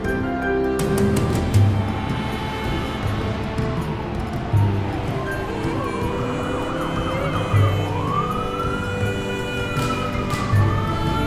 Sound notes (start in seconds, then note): 1.8 mysterious suspenseful music; 3.8 sirens wailing; 3.8 woman vocalizing